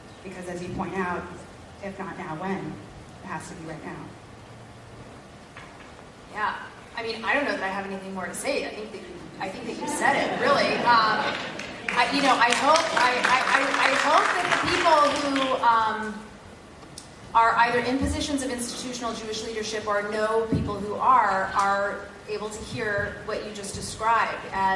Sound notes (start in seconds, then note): 9.0 laugh; 11.2 applause